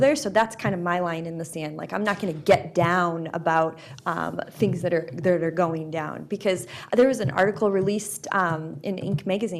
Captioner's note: none